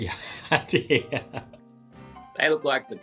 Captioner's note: laughing